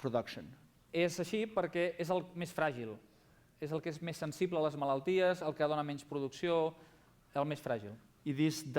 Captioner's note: non-english speech